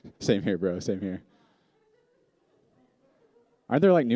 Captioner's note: shouts